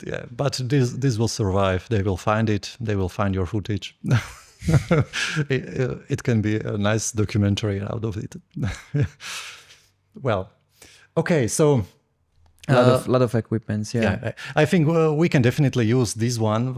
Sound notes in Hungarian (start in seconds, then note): 4.0 nevetés; 9.2 szippant